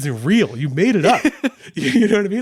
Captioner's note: laughing